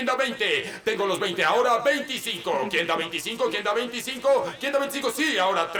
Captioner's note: chants